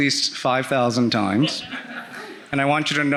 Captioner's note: audience laughing